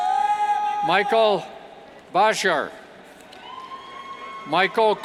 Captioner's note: cheers